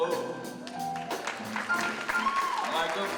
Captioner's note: audience applauding; audience cheering